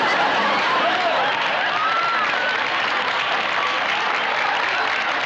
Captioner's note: laughter and applause